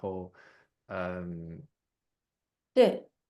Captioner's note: nonverbal grunt as interjection